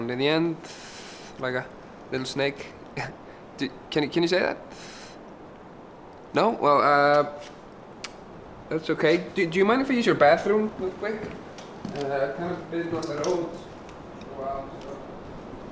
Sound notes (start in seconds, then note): 2.9 giggles; 12.0 David mumbles